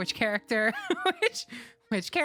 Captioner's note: laugh